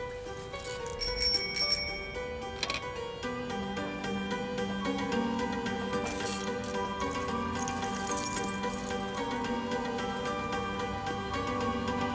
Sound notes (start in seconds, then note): 0.7 bike bell ringing